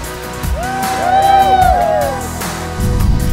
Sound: cheering

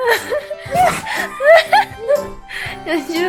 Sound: sneezing

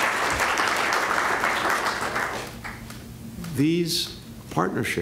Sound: applause

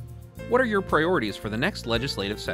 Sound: voiceover

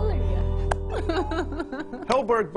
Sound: laughs

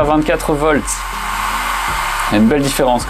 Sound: fan noise

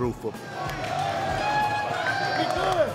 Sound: cheering

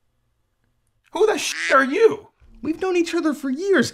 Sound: duck quacks

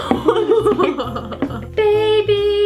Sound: both laugh

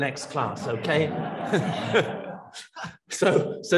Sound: audience laughs; laughs

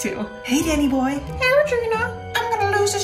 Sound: in different voice

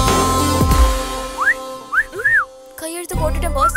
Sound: whistles

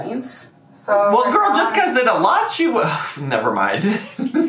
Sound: sighs; laughs

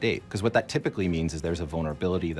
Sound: none

